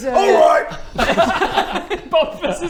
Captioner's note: laughs